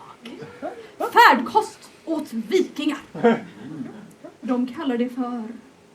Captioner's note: laughter